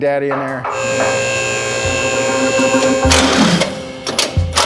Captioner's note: lift and tool noises